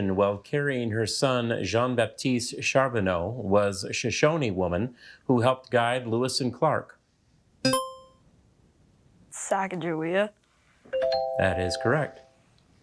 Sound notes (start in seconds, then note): 7.7 buzzer chimes; 10.9 musical notes chimes